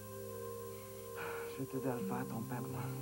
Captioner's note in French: Soupir